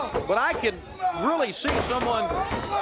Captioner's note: crowd cheering